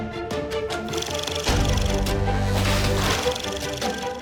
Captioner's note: reel flickering; liquid splashing; reel flickering